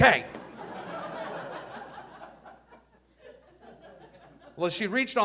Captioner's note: audience laughing